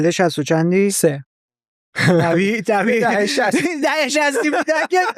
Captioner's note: laughs